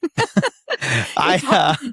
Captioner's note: laughing